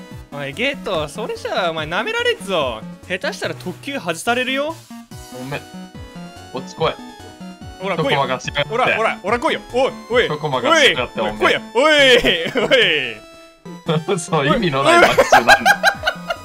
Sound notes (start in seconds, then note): 11.5 Gojo mocking; 14.9 Gojo laughs